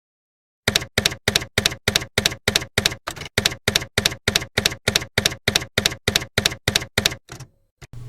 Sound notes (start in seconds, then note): 0.7 typewriter keys clacking